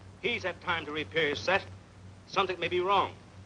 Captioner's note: man On Radio